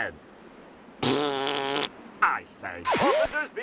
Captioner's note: blows raspberry